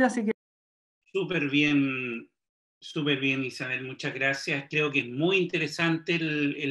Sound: speaks foreign language

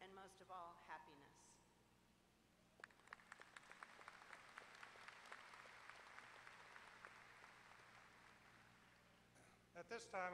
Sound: applause

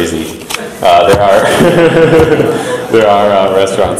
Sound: audience laughs; laughs

